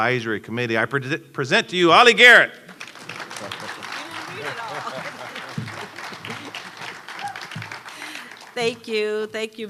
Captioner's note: laughter, applause